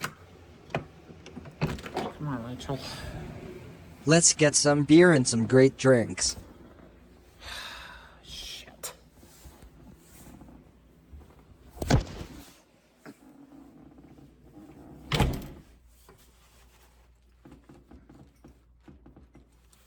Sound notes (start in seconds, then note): 11.8 door slams shut